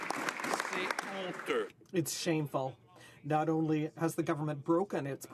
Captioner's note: some Applause